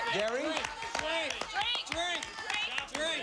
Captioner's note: family yelling